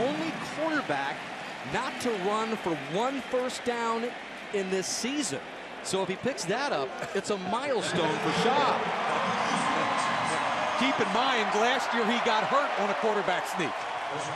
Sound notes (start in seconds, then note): 9.5 pa announcement; 10.4 cheering